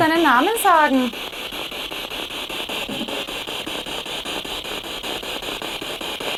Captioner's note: noise of the spiritbox in the background